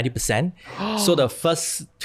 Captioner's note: gasps